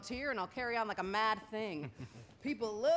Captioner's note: chuckles